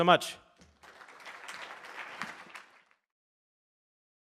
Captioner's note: audience clapping